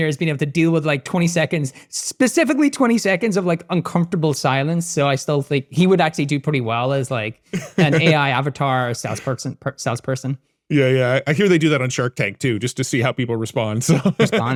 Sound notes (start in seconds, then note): 7.5 laughing; 13.8 laughs